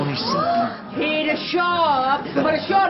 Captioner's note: muttering and expressions of surprise